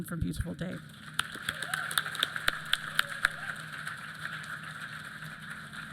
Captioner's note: applause